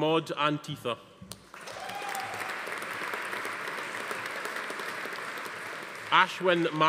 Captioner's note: audience applauding; attendee cheering